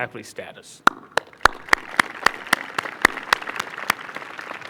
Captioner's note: applause